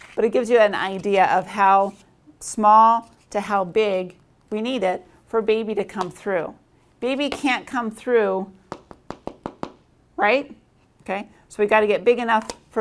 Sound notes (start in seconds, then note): none